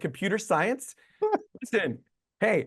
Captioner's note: interviewer laughing